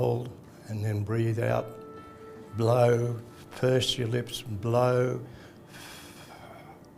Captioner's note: breathes out